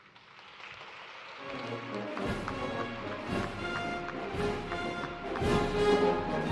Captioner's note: applause